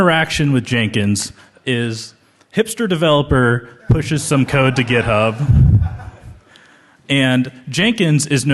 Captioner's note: laughter